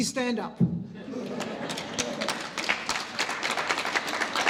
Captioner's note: laugh; applause